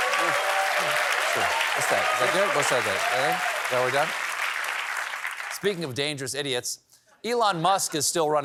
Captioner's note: applause